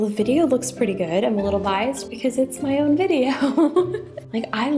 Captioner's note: chuckles